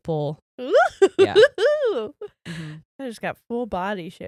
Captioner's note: giggles